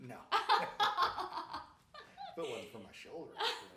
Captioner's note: laughing